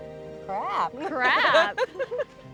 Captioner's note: laughs